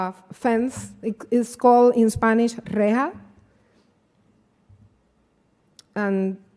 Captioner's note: speaking spanish